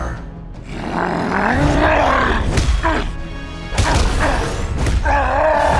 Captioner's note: grunts, roars